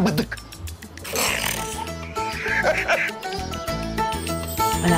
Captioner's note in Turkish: Gülme sesleri